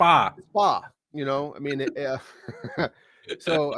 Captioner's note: chuckles